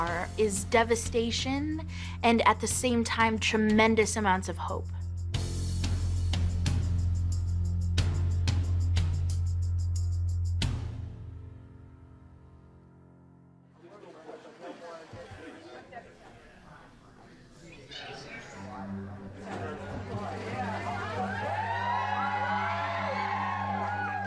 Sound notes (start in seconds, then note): 13.8 overlapping chatter; 21.0 cheering